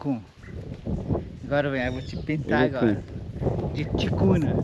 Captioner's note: speaking Portuguese